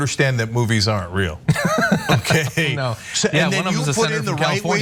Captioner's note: laugh